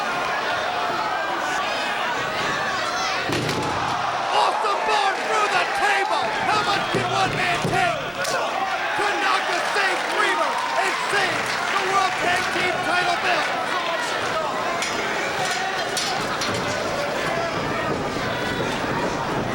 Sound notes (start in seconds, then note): 0.2 crowd chattering; 3.2 table crashing; 3.4 crowd exclaiming; 13.8 crowd vocalizing; 14.0 table clunking